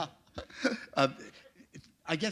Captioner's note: chuckle